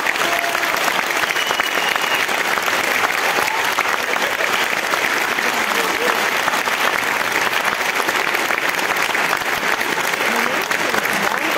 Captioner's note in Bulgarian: аплодисменти